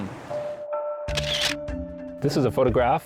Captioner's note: sound of camera clicking